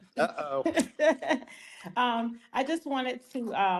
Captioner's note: laughs